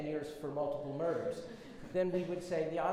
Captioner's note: audience laughs